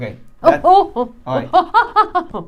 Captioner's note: vocal yells